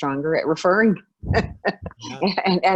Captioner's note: laughing